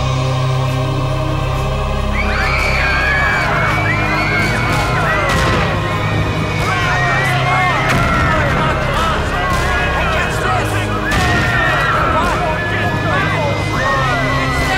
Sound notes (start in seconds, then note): 2.2 screaming; 12.2 screaming